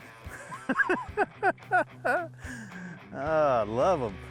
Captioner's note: laughing